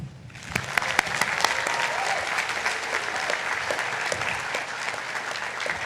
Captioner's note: attendees cheering and applauding